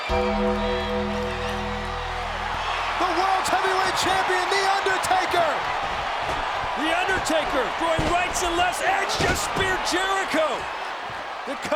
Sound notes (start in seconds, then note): 0.0 bell tolls